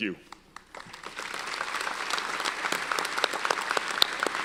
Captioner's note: audience applauds